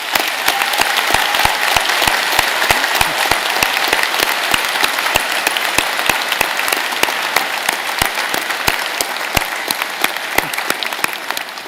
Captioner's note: applause